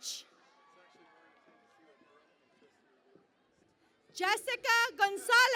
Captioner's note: cheering and Applause